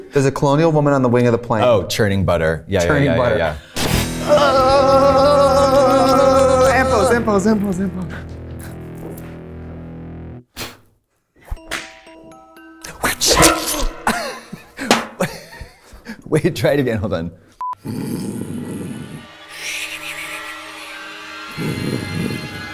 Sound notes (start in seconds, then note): 3.8 rock riff; 4.1 both moaning; 10.5 Katya blows; 11.5 Katya whooshing; 11.5 mysterious music; 13.1 Katya laughs; 13.1 Trixie gasps; 17.8 snoring; 18.4 suspenseful music